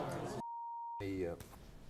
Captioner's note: audience groans; beeps